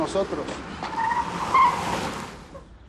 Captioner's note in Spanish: Frenazo